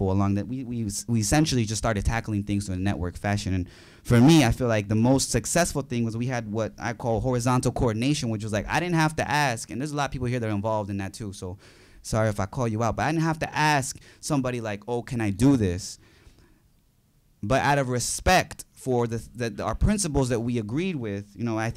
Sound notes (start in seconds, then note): none